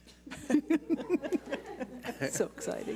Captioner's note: laughing